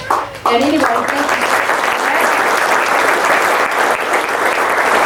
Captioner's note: audience claps